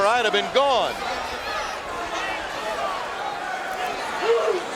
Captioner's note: audience cheering